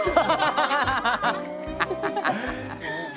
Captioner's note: can't hold laugh